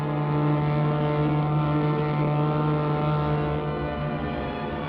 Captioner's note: engine rumbling